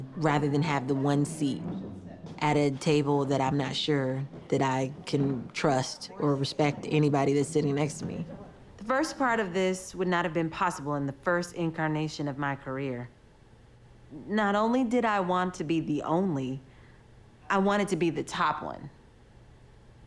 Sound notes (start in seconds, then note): none